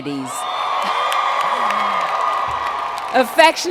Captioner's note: cheers and Applause